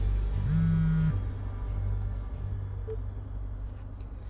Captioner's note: phone buzzing